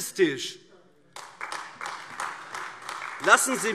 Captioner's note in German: Beifall AfD